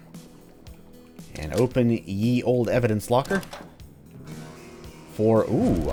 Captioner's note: door opens, riff plays